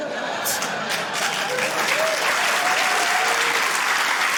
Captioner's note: cheering, applause